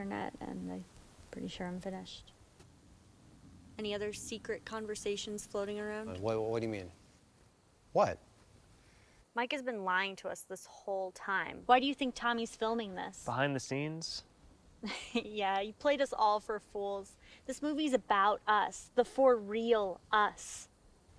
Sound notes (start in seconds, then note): 14.8 chuckles